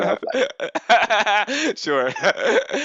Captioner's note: laughs